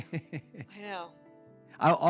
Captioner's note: laughs